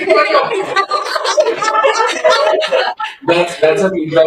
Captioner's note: laughter